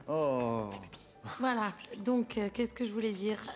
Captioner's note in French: en chuchotant